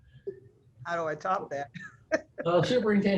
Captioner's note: laughs